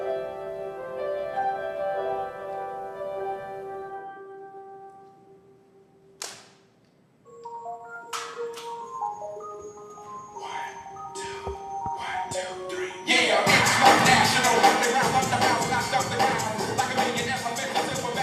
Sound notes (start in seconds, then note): 6.2 snapping; 9.5 energetic hip-hop music